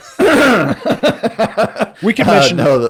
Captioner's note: both laughing